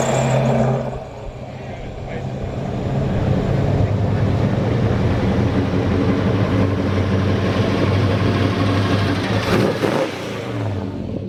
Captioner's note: car sounds